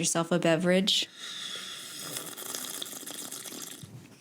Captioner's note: sips mug